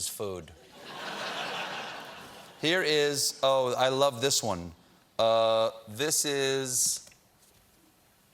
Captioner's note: laughter